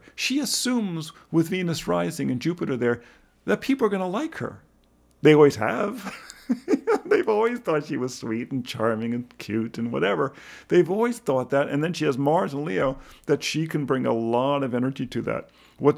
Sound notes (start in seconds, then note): 6.0 laughs